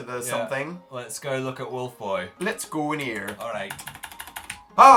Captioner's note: frantic clicking